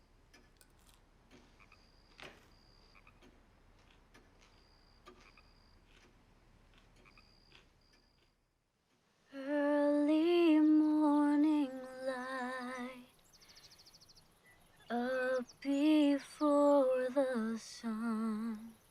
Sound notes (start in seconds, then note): 2.7 clock ticking; 2.7 frog croaking